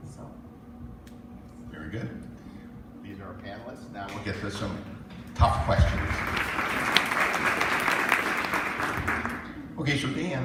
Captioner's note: applause